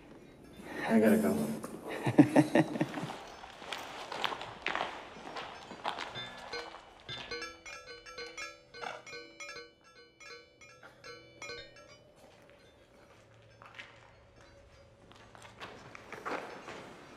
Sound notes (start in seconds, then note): 1.1 laughing; 5.7 bell chiming